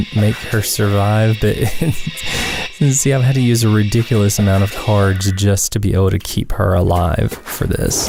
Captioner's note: haha